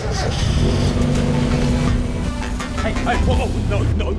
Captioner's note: engine starts, growls